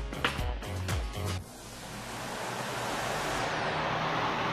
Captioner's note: whirring of the fan